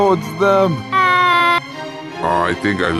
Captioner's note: the secret serviceman slides away screaming